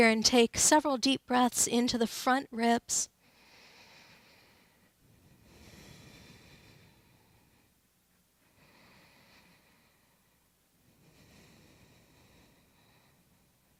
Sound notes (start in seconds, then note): 3.2 breathes deeply